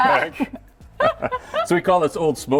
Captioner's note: laughing